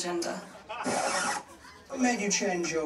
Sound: rewind sound effect

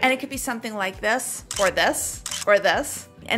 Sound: camera clicking

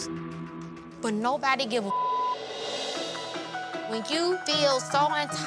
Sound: beep sound

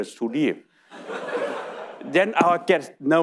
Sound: audience laughing

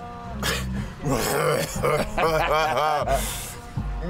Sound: groaning

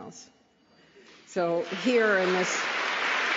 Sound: applause

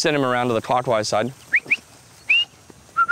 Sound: whistles

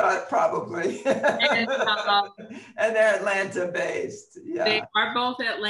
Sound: laughs

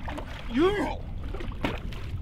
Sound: none

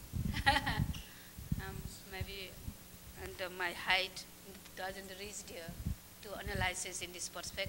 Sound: laughs

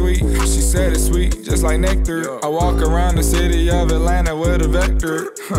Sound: brr

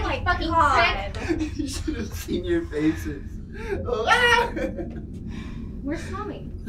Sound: laughs

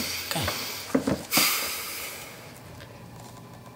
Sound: angry exhale

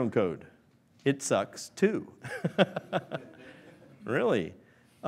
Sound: laughs

